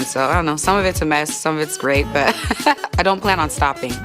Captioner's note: laughs